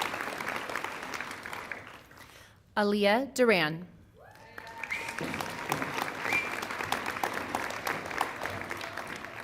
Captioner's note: applause